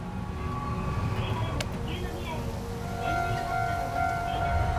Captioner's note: woman chattering in Japanese